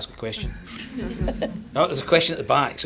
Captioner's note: audience laughs